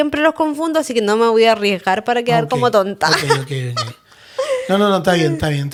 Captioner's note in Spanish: risas